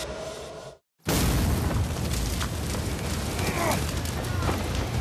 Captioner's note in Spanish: explosión; quejidos